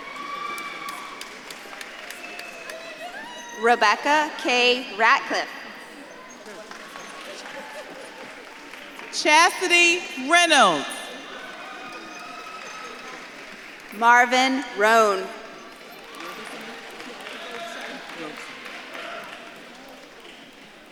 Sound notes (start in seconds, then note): 0.1 audience claps and cheers; 6.8 audience claps and cheers; 11.9 audience claps and cheers; 15.6 audience claps and cheers